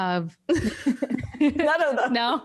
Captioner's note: all laugh